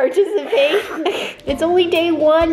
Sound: laughing

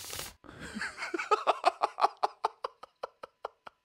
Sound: laughing

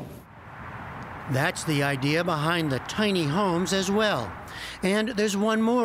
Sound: voice-over

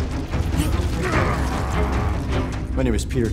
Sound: grunting

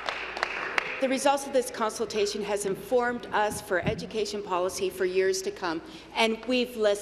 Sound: applause

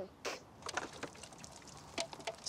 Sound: drink sloshes

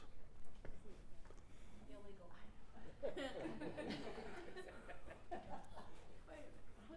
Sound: laugh

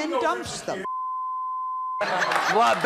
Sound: beeping

